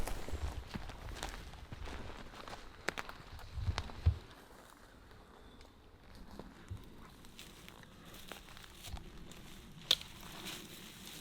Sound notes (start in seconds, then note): none